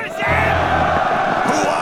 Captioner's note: battle cry